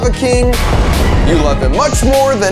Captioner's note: flame whooshing